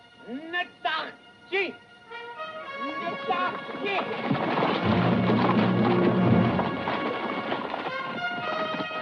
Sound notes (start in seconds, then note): 0.8 Delgadito hablando idioma extranjero; 2.8 música dramática